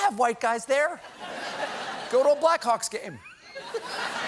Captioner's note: laughter